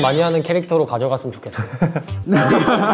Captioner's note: laughing in vain